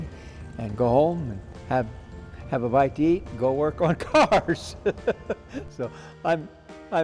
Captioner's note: laughs